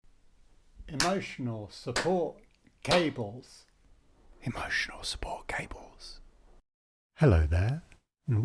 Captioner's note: whispers